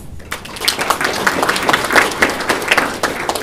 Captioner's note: applause